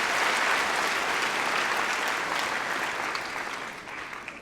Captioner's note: applause